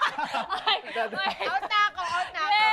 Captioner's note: laughing